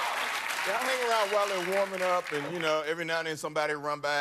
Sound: cheers and applause

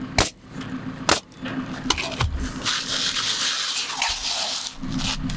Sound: nail gun bangs

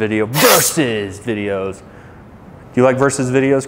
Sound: knives clanging

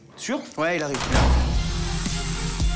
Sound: door opens

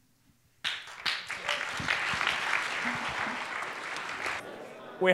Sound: applause

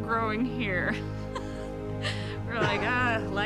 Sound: laughing

